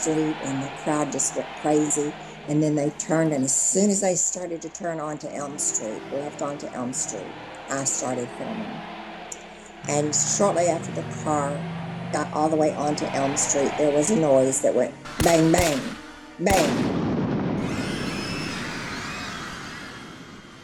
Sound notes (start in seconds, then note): 15.1 gunshots blast; 17.6 crowd screams